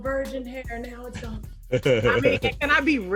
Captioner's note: laughs